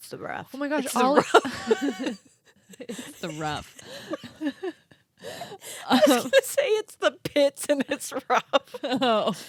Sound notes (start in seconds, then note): 3.0 girls laughing